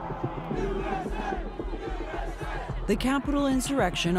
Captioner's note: crowd chanting